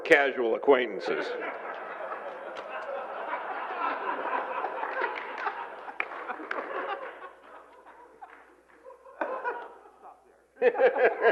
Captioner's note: laughter